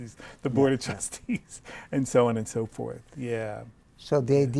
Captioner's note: laughs